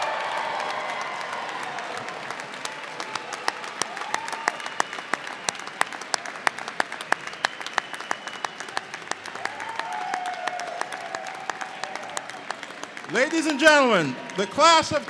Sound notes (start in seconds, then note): 4.2 applause